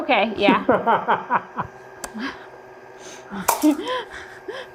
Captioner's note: both laughing